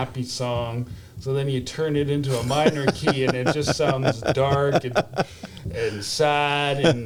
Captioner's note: laughs